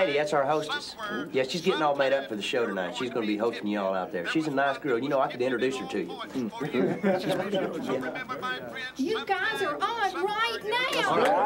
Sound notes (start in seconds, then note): 6.6 laughter; 7.0 preacher drones on